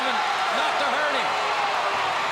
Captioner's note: crowd cheering